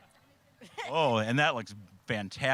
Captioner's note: laughing